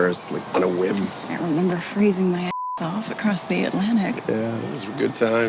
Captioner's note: beep